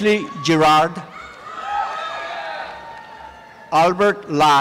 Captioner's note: applause and cheering